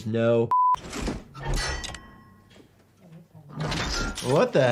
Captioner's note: metal clacking